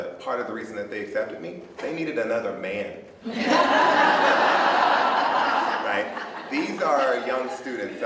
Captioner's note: laughter